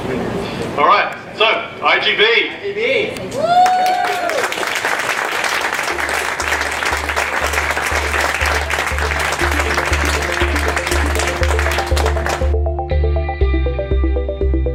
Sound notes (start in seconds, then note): 3.3 cheers and applause; 8.8 background music